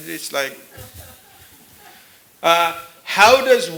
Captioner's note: laughter